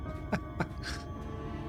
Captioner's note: laughs